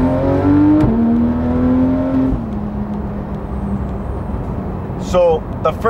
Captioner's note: engine revving noise